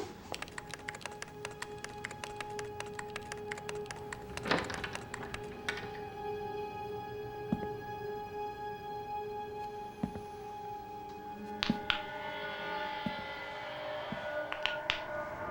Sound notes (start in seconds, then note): 0.0 keyboard clacking; 4.0 door opens; 4.0 typing stops; 7.3 footsteps approaching; 11.5 knuckles crackling